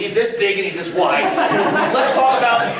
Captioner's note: laughter